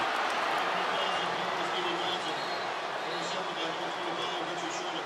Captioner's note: pa announcement